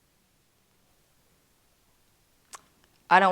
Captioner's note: none